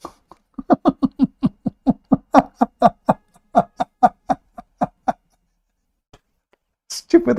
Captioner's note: Ketawa